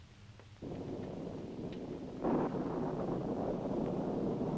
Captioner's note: thunder rumbling